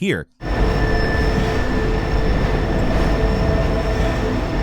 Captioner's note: train whirring